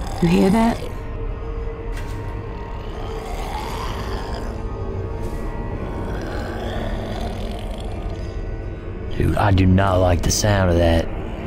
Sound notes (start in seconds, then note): 2.6 growling continues